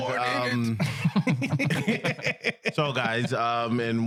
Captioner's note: laughing